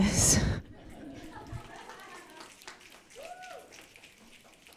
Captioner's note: audience laughing